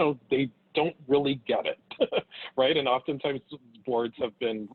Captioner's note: laughs